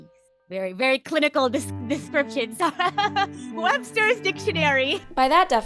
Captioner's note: laughs